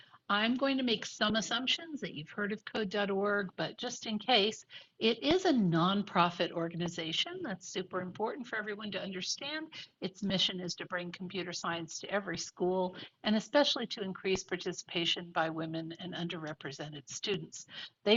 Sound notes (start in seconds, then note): none